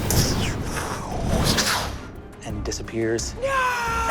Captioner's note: mimics blasts